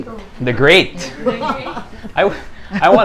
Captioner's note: laughs